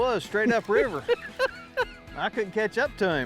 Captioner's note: laughs